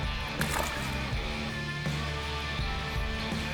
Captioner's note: water splashes